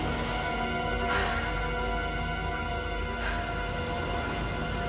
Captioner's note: flies buzzing